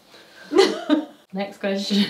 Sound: laughing

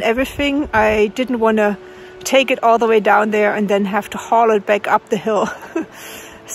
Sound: laughs

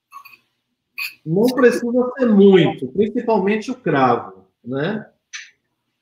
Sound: speaks portuguese

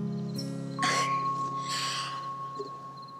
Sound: chuckles

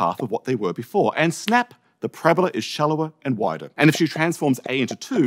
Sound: snap

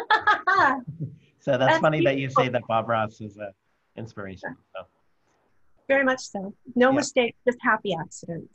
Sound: laughter

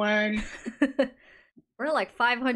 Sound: laughs

